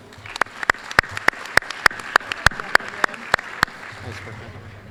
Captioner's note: applause